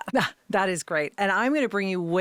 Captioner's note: laughing